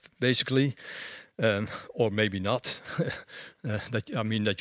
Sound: laughter

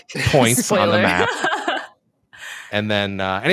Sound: laughs

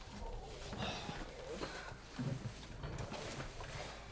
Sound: both groan

